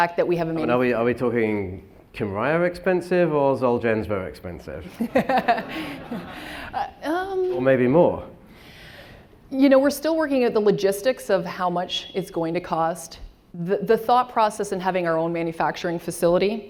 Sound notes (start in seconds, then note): 4.9 laughing